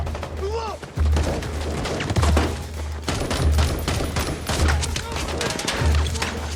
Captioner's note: gunshots boom